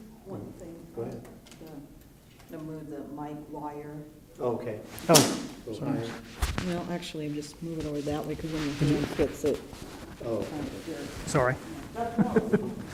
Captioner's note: background Discussion